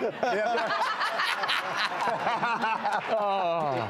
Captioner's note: laughter